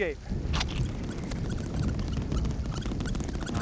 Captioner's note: squeaking